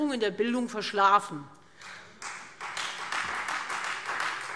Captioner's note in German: Beifall Freie Demokraten